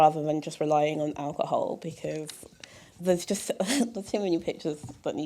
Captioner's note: chuckle